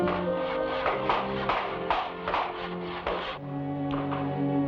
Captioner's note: hammer bangs; somber music